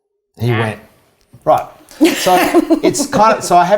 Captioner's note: laughs